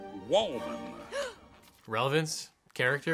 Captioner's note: Vanessa gasps